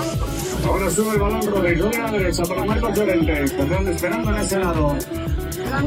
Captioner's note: foreign language 00:29:31